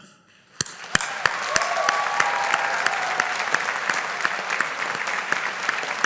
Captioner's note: audience applauding